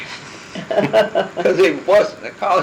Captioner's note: laughter